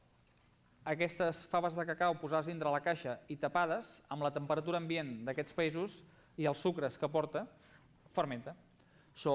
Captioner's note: non-english speech